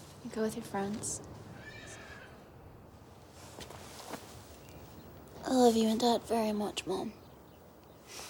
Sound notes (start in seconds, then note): 1.5 horse whinnies